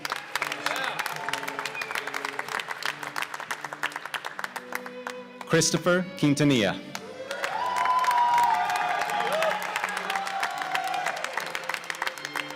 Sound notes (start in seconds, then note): 0.0 applause; 7.0 cheers and applause